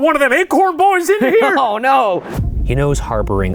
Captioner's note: laughs